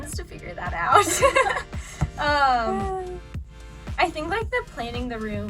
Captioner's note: laughing